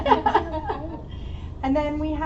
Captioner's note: laughter